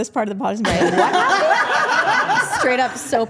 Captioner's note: group laughing